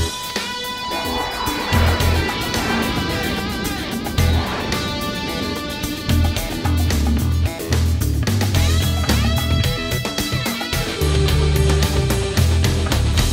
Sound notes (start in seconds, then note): 0.1 upbeat funky rock music; 2.0 jets whooshing